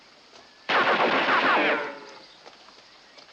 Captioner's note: gunfire continues